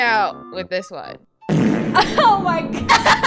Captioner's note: fart sound effect; laughs